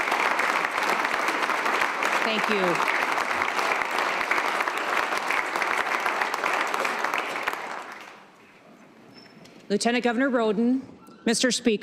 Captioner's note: applause